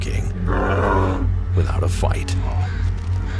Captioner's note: bear growls